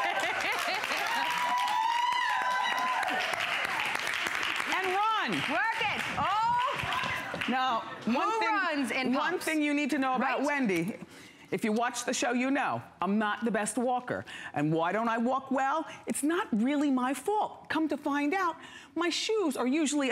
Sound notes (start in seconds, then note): 0.0 applause; 0.0 laughter; 0.2 applause